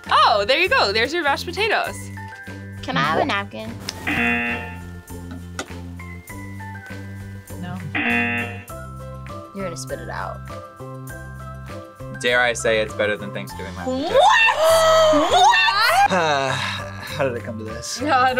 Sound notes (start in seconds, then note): 4.0 buzzer; 7.9 buzzer; 16.0 gasps; 18.3 laughs